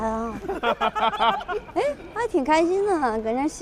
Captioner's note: hahahaha